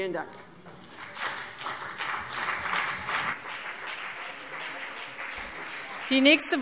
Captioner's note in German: Beifall BÜNDNIS 90/DIE GRÜNEN und CDU